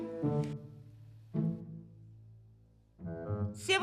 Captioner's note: patient babbles in foreign language